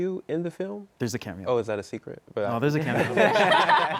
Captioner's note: laughter